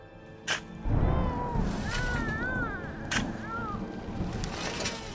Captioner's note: baby crying